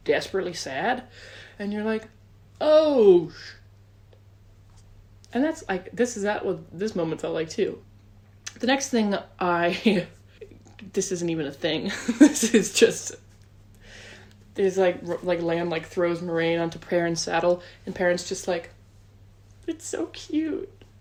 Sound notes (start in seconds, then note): 10.8 laughs